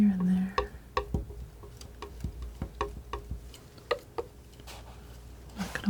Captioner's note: tapping